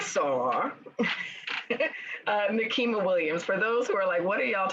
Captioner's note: chuckles